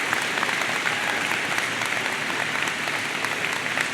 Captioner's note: audience applauds